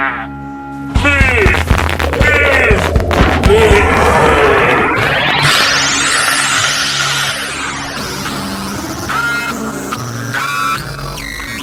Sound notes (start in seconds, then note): 1.2 electricity crackling; 5.7 tense music